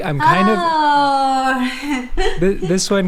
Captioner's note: giggles